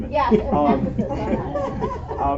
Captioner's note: laughter